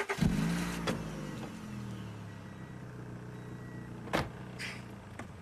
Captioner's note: car engine revving; car door thudding